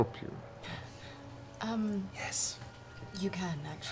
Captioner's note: whispers